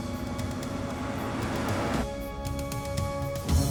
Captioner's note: van rumbling; suspenseful music continues